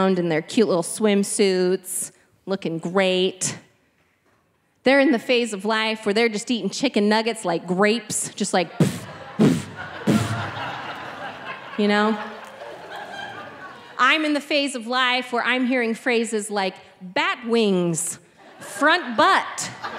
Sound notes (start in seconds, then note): 8.8 blowing